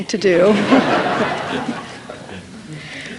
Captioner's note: laughter